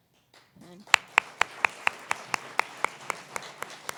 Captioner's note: applause